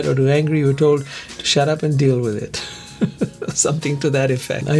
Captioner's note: laughs